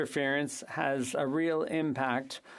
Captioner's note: speaking French